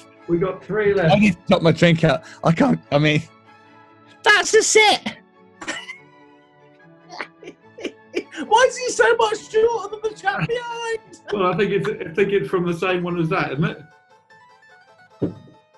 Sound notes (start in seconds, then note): 7.1 laughing